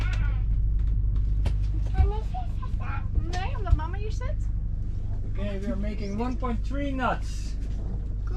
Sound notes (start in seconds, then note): 1.9 speaking Dutch